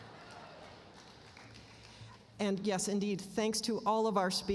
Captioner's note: laughter